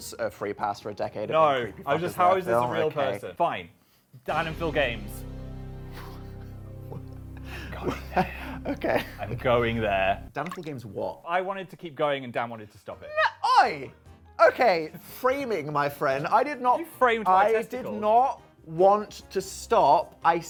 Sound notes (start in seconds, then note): 4.3 dramatic music; 8.8 chuckling